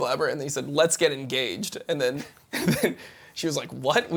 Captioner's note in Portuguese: risos